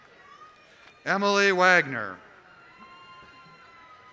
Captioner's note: applause